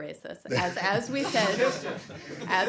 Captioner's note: laughter